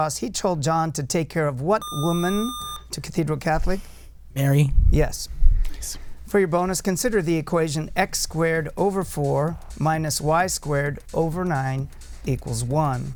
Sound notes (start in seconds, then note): 1.8 buzzer